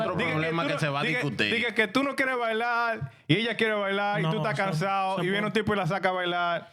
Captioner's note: speaking In Spanish